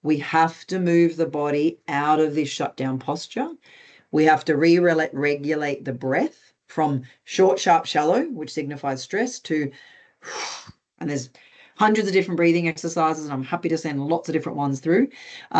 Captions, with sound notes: we have to move the body out of this shutdown posture. We have to re regulate the breath from short, sharp, shallow, which signifies stress, to... (EXHALES) And there's hundreds of different breathing exercises and I'm happy to send lots of different ones through.